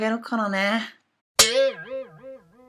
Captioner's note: bang!